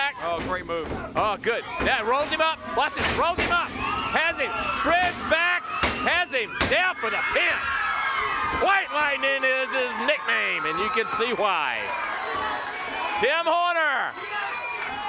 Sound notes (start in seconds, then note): 4.2 crowd cheering